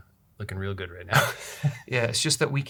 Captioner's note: laughter